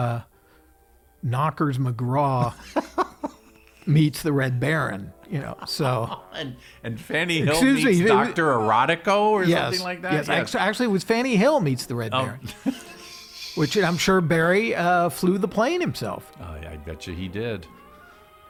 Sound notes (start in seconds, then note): 5.4 laughing; 12.2 laughs